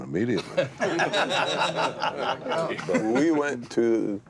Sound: laughter

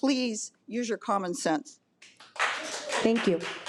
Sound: audience applause

